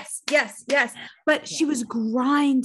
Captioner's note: clapping